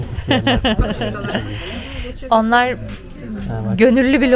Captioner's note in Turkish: kahkaha